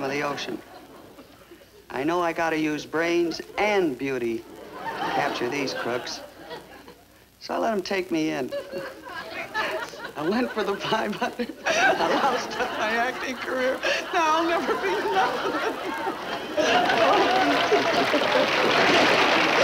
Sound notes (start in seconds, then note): 11.1 sobbing; 16.1 Joan sobbing; 16.1 audience applauding